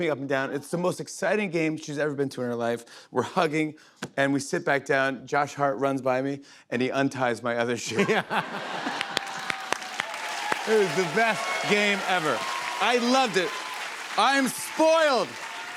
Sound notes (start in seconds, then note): 8.0 laughter and applause